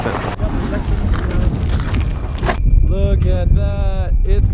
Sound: shoes crunching

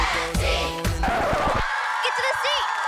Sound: record scratch

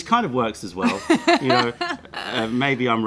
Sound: laughter

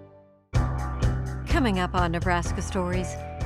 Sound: voiceover

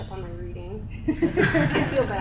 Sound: crowd laughs

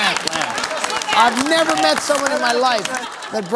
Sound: laughter

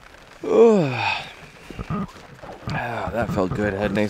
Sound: yawning

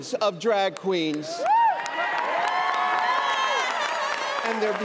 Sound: applause and cheering

